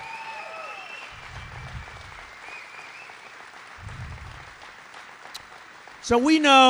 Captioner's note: applause